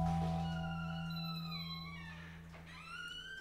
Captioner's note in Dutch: deur kraakt